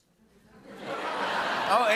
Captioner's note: laughter